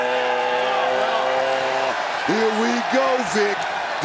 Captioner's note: crowd cheering